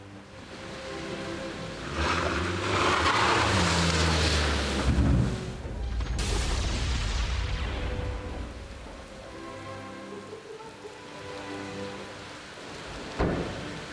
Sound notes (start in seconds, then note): 0.1 car approaching; 2.3 rain pouring down; 7.4 thunders